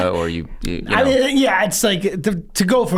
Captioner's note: laughs